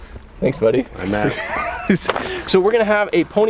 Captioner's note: laughs